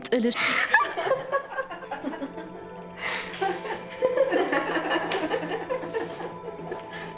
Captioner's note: laughter